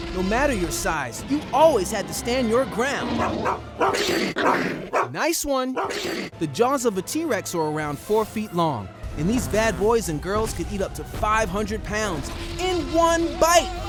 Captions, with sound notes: No matter your size, you always had to stand your ground! [barking] Nice one! The jaws of a T-Rex are around four feet long. And these bad boys and girls could eat up to 500 pounds... in one bite!